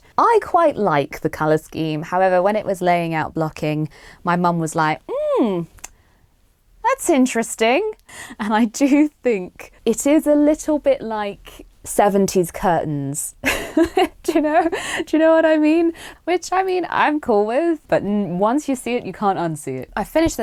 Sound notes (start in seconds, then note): 5.0 sarcastically; 12.3 laughs